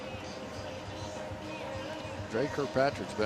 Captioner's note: none